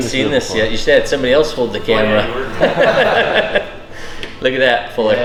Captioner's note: laughs